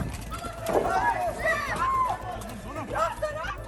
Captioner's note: people yelling